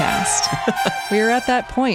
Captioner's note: chuckling